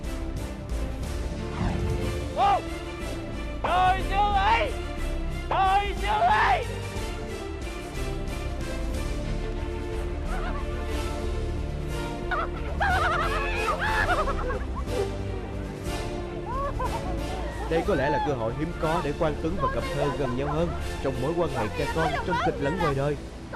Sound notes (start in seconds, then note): 12.8 exciting shouts